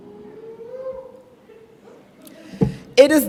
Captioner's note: audience member woos